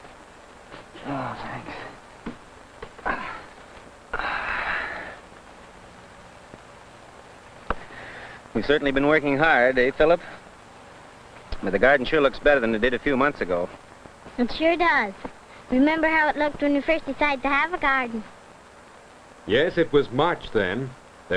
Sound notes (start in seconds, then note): 4.1 weary sigh